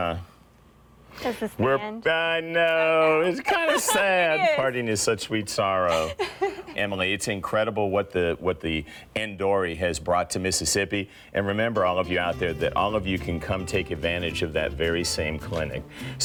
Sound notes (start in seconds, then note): 2.8 laughs